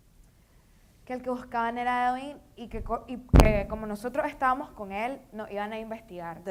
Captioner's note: speaking in foreign language